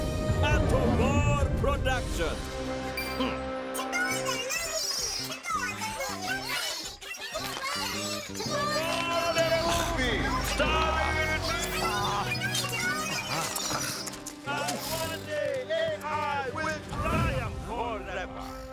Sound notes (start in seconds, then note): 9.8 man groans; 11.8 Bongolalas chattering; 11.8 man 2 groaning; 15.5 man 2 groans; 18.1 gasping